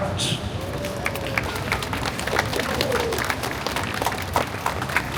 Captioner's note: applause